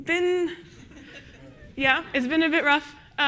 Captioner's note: audience laughs